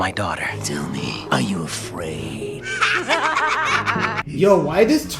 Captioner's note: crazed laughing